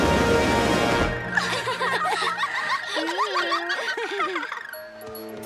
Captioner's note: giggling